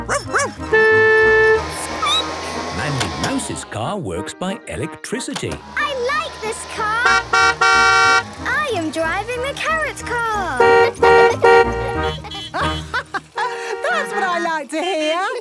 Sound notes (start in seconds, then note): 0.2 squeaking; 0.3 honking; 6.7 honking; 10.3 horns honking; 10.6 honking; 11.2 laughing